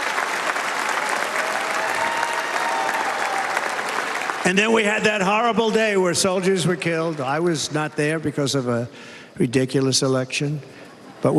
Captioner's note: cheers and applause